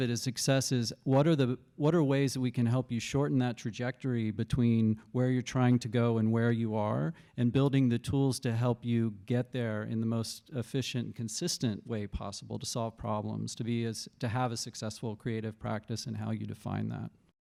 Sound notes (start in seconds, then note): none